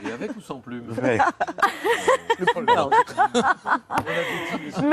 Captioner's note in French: rires